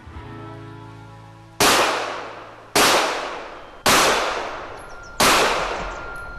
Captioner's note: gunshots blasting